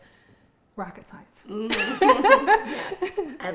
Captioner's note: laughing